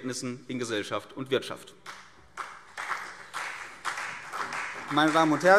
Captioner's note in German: Beifall CDU und BÜNDNIS 90/DIE GRÜNEN